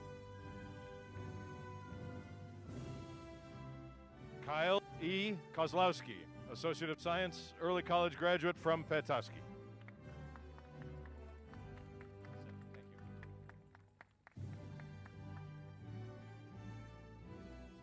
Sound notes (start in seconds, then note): 9.8 applause